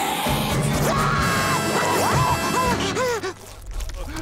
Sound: screaming, panting; Mr. Krabs crying

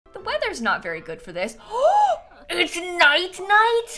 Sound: gasps

